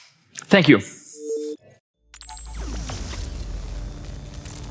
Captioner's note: electronic beeping